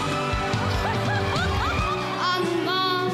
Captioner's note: laughs